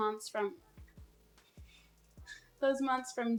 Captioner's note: laughs